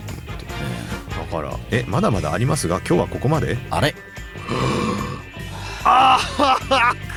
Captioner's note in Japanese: 鼻息; 笑い